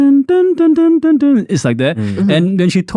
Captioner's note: 🎵 hums tune 🎵